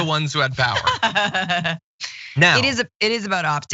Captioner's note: laugh